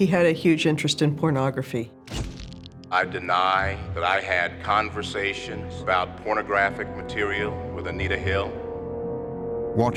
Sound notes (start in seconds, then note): 2.5 shutter clicks